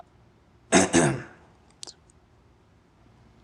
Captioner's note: clears throat